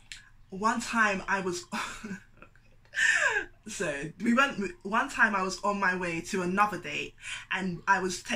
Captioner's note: laughs awkwardly